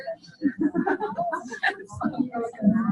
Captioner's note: overlapping chatter